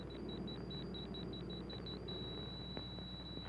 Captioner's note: beeping